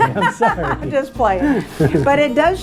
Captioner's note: laughing